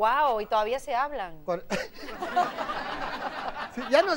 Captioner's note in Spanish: Risas; Ríe